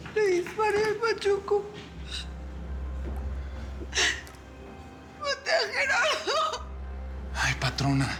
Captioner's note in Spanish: sollozos